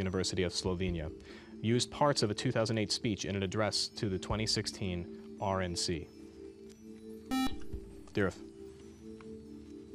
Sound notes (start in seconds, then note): 5.7 buzzer